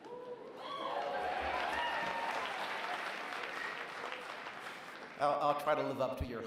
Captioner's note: applause